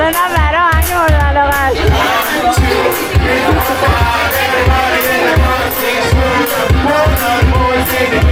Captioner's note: applause